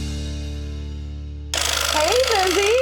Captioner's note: team cheers; saw rattling